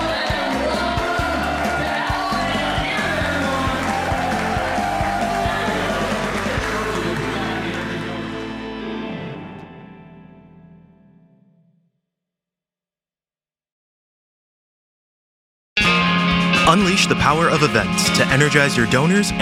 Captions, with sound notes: And welcome, now and again everyone. (crowd cheering) (upbeat music) (upbeat music) (upbeat music) Unleash the power of events to energize your donors